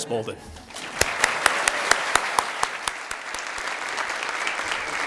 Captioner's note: applause